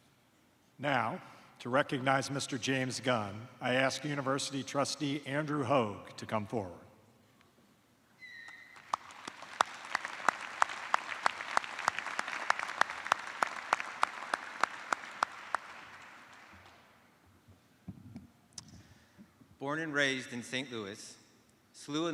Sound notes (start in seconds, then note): 6.1 applause